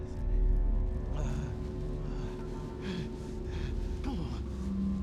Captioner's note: gasping